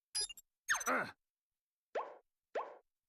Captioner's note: grunting